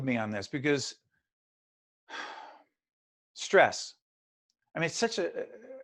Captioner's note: sigh